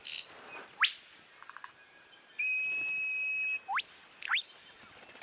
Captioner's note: whistles, chirps